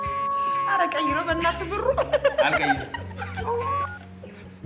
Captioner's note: phone Rings - Wolf Howl; phone Rings - Wolf Howl